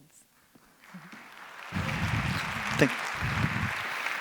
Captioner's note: applause; applause continues